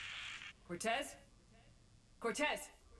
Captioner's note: static